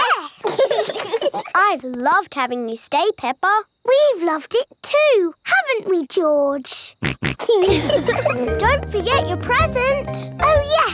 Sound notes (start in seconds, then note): 0.4 laugh; 7.0 snorts; 7.3 laughs